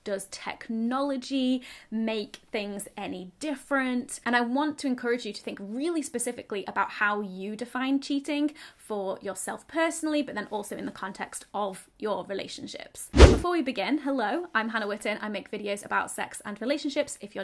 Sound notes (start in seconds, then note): 13.1 air whooshing